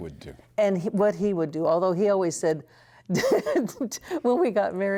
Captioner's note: laughter